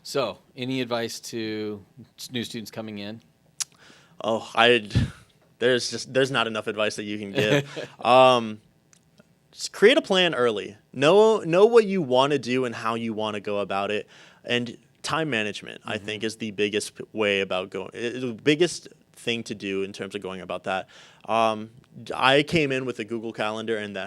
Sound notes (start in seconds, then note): 7.3 laughing